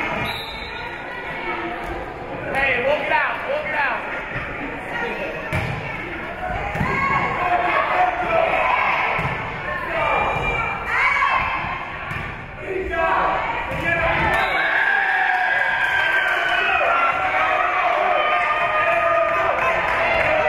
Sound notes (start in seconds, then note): 0.2 whistle being blown; 2.6 spectators shouting encouragements; 13.8 spectators cheering; 14.3 whistle being blown; 14.6 spectators cheering and applauding